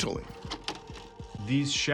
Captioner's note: video clicks